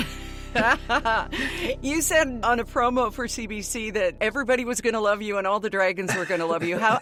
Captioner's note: chuckles